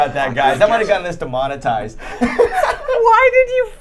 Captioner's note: laughing